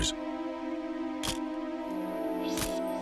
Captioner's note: camera shutter click